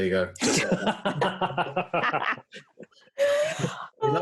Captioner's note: group laughing